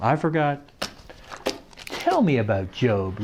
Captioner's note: flipping cards